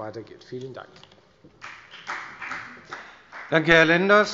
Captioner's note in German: Beifall bei der FDP